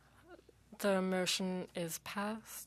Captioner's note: speaking French